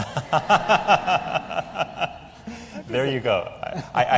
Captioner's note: laughter